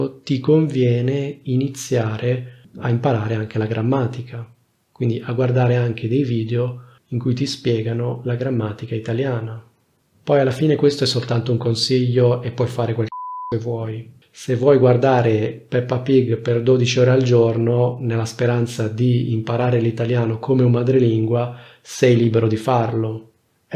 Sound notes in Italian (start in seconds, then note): 13.1 beep